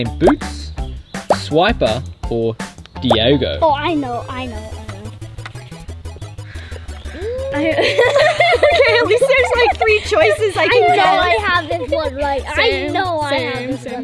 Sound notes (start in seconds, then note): 7.0 laughs